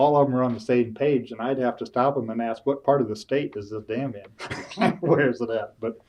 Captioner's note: laughs